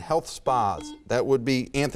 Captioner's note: buzzer beeps